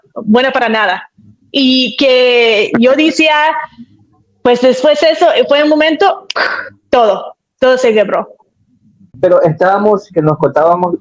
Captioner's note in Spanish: carraspeo